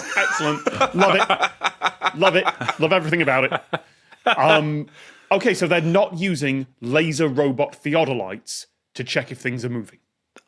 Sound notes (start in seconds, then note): 0.0 guests laughing